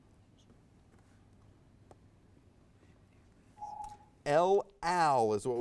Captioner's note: timer dings; whispered conferring